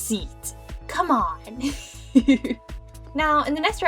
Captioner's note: giggles